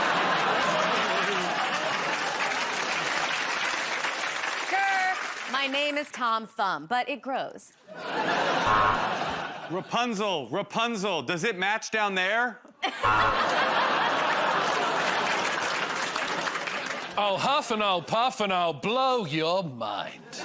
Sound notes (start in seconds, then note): 0.0 laughter; 1.6 applause; 8.6 buzzer buzzes; 13.0 buzzer buzzes; 14.5 laughter